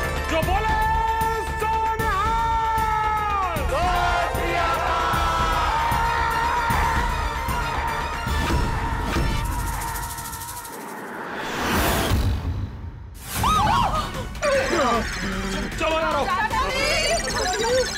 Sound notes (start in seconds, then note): 11.2 dramatic music plays; 13.0 gasps